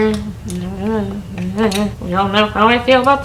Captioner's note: grumbling